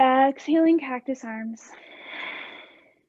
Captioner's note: exhaling